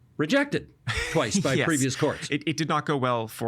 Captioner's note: laughing